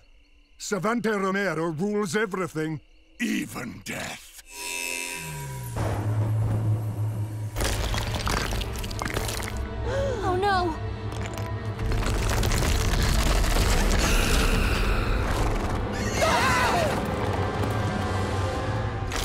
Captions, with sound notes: Savanti Romero rules everything, even death. Oh no. [screaming]